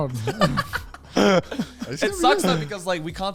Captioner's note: laughs